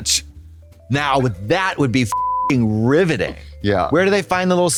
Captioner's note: beep